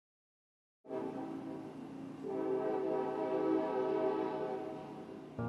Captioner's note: train horn blowing